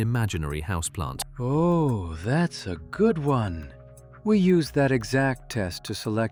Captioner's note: matter-of-factly